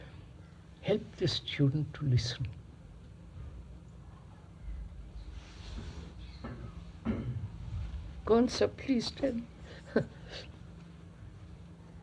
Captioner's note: laughs